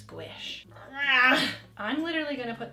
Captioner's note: grunts